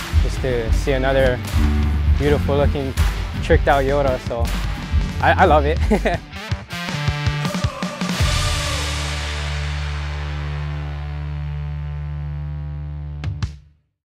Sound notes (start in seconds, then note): 5.7 chuckles